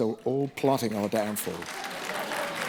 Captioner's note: applause